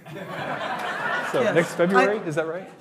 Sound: hearty laughing

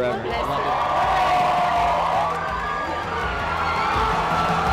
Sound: cheering

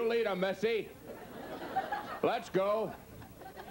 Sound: audience laughs

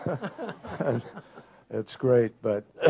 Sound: laughter

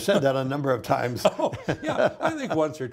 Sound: both laughing

